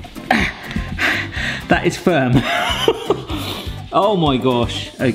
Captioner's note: pants; laughs